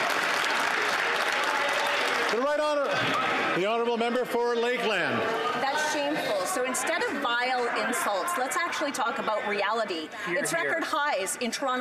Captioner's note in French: Some Applause